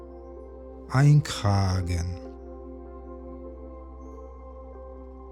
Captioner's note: german